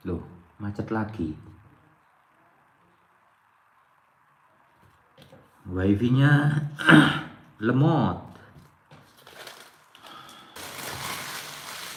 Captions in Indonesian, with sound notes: Loh, macet lagi. Wi-Fi-nya [berdehem] lemot.